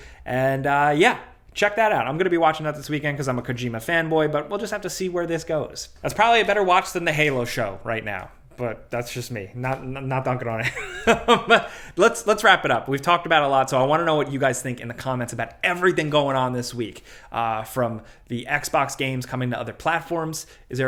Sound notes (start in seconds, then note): 10.6 laughs